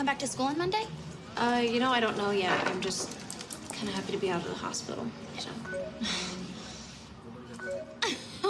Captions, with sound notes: you gonna come back to school on Monday? Uh, you know, I don't know yet. I'm just kind of happy to be out of the hospital. Yeah. [computer chimes] [laughing]